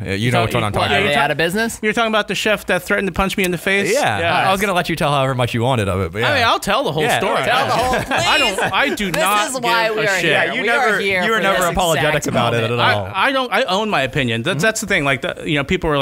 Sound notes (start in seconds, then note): 7.6 laughter